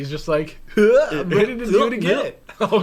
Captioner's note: mocking sounds